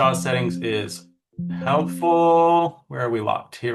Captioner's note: computer chimes